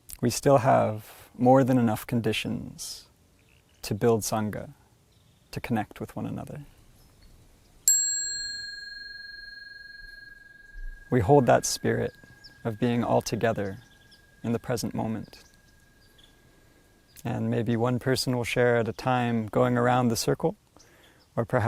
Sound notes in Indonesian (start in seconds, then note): 7.8 Bunyi genta